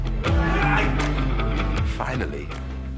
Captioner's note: man shouts